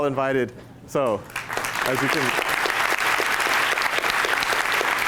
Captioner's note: applause